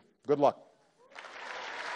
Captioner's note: applause